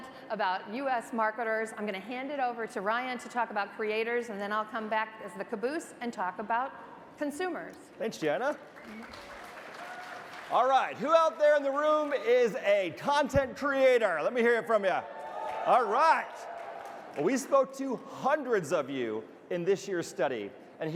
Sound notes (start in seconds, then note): 8.7 audience applauding; 15.0 audience cheering